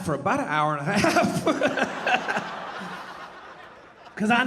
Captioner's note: laughing; audience laughing